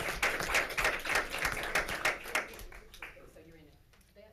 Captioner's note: claps